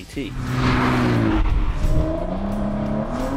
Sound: engine roars

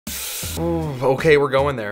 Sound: hissing

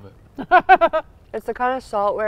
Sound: laughing

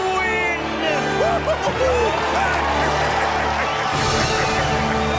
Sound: cheering

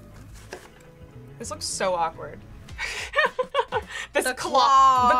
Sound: laughs

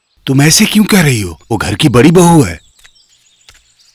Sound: none

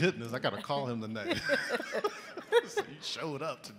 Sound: both laughing

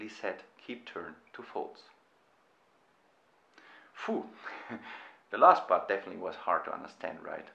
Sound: exhales

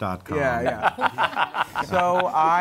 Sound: laughs

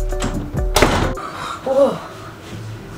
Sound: door slams

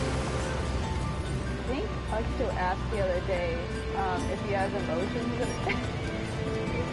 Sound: laughs

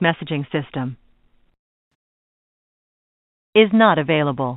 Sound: silence

